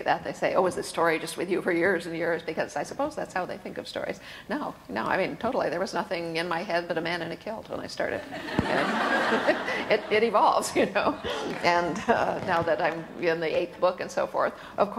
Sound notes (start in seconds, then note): 8.3 audience laughs